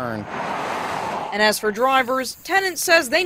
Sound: sound of cars

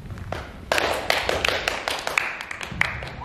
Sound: clapping and cheering

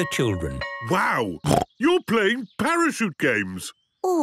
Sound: snorting

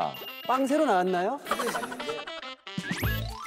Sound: dying of laughter

